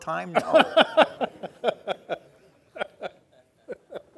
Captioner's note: laughing